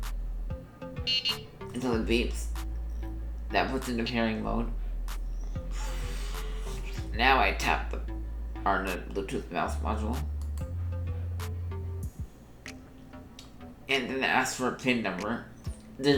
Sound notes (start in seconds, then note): 0.8 beeps